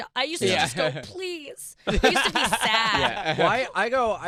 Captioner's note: laughter